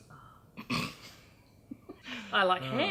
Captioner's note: laughs